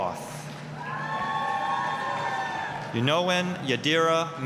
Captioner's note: applause, cheering